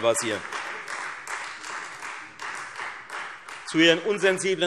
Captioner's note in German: Beifall Freie Demokraten und vereinzelt SPD